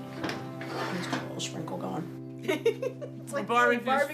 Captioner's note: laughs